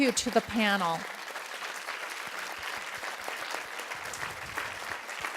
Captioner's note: applause